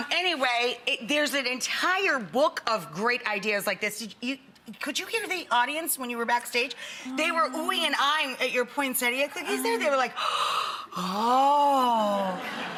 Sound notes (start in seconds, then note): 10.1 gasps